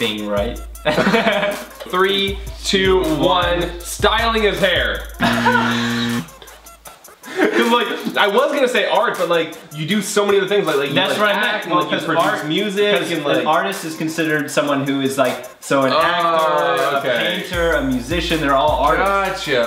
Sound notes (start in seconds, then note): 0.8 brothers laugh loudly; 5.1 brothers laugh loudly; 5.2 loud buzzing